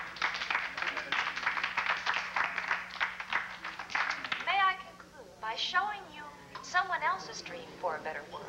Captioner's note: audience applauds